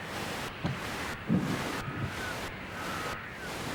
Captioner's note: muffled birdsong